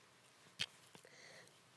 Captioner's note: rustling; click